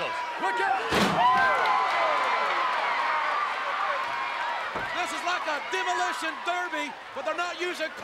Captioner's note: applause